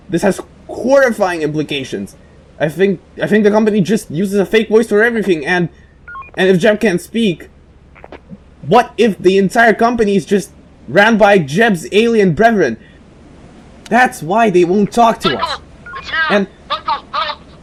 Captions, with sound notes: this has HORRIFYING implications. I think I think The Company just uses a fake voice for everything and... *Walkie Clicks* uses a fake voice for everything and... *Walkie Beeps* And if Jeb can't speak, what if the entire Company is just... ran by Jeb's alien brethren. That's why they won't talk to us. *Walkie Clicks* That's why they won't talk to us. *Walkie Beeps* M̵I̵C̶H̸A̸E̷L̶ ̸I̵T̶S̸ ̷H̶E̵R̶E̶!̴!̵ And M̵I̵C̶H̸A̸E̷L̶ ̸I̵T̶S̸ ̷H̶E̵R̶E̶!̴!̵ M̶I̷C̸H̵A̵E̸L̶ ̸H̷E̶L̵P̵!̷!̶